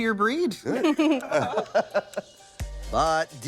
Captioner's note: all laughing